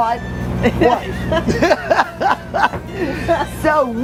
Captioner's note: laughs